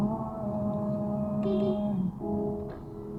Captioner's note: beepbeep